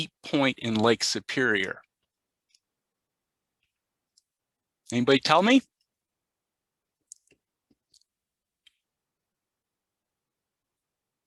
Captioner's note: pause